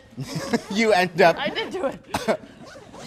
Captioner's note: laughs